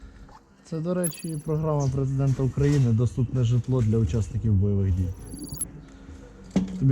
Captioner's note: sarcasm